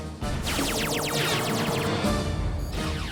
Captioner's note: lasers fire rapidly